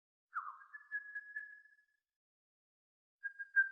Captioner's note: birds singing